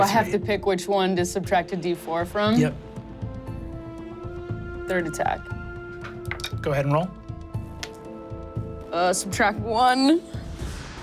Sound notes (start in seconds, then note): 3.3 dramatic music; 5.5 dice rolling